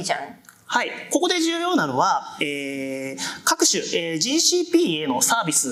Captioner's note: speaking japanese